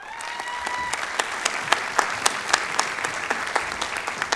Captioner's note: applause